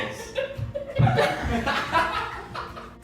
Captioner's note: laughter